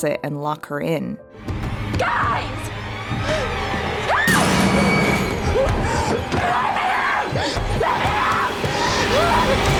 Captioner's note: screams